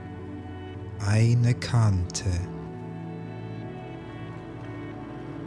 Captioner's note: german